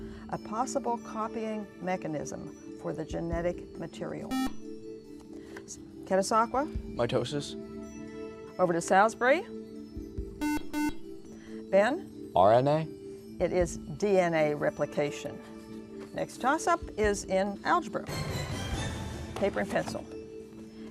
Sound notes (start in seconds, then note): 4.3 buzzer; 10.4 buzzer